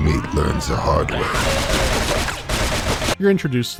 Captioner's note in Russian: огонь турели